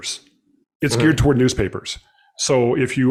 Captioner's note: mm-Hmm